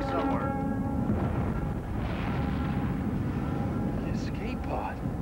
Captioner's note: explosive thud